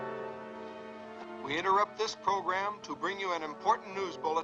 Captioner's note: announcer on radio